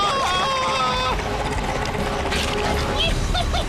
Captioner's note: snarls; giggles